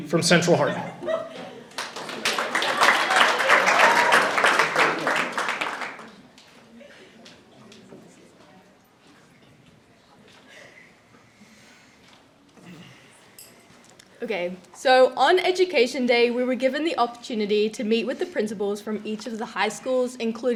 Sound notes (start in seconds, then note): 1.6 audience applauding